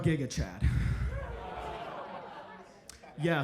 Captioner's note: audience laughs